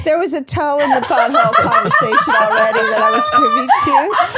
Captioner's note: laughing loudly